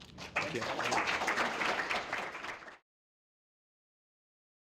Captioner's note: applause